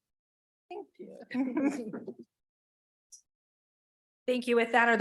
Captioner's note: chuckling